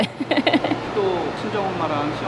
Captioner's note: Laughs